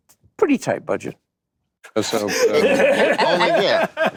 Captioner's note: laughter